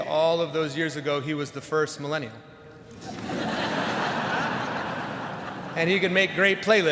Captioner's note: audience laughs